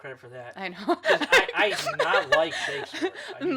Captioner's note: laughs